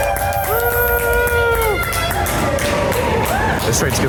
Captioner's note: cheering